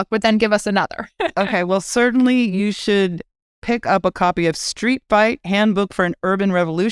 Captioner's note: laugh